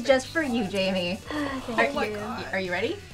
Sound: sighs

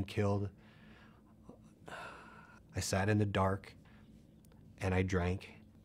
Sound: sighs

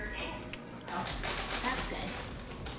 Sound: cookies crunching

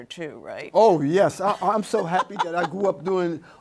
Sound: laughs

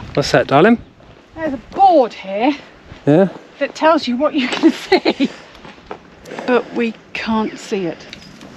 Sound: laughter

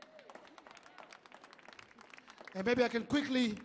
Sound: audience clapping

